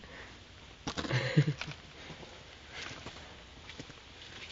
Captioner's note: laughing